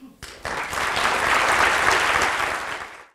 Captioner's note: applause